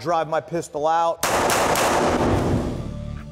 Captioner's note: gun fire; heavy metal music